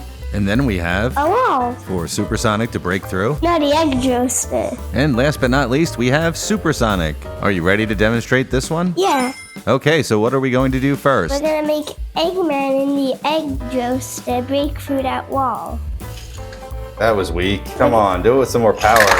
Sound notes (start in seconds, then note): 9.0 Sonic Ring Chime